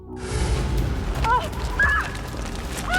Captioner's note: screaming